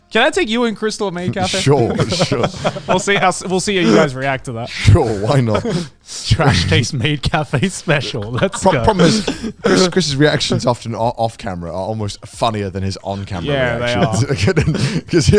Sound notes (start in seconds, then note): 1.2 laughs